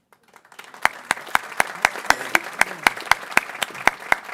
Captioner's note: people clapping